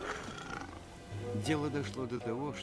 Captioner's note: snarls